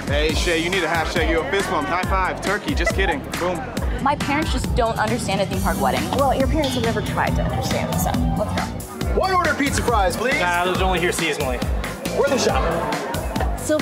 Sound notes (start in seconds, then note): 2.5 laughing